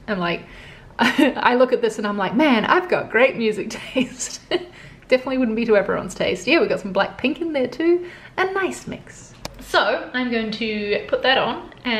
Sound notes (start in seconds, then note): 4.5 laughs